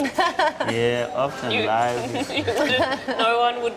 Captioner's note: woman laughs